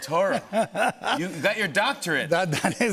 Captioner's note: laughs